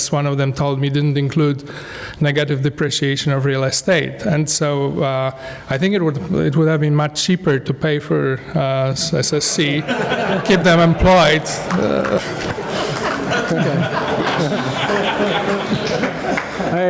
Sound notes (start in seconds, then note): 9.4 laugh; 11.0 applause; 11.6 laugh